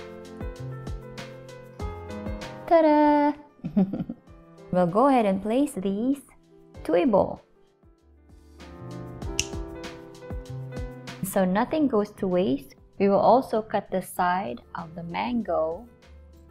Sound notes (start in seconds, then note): 7.7 snaps finger